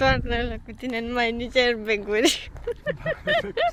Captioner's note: laughs